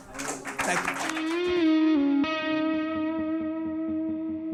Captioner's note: applause